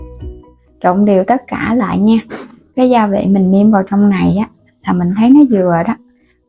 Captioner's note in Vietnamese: hắng giọng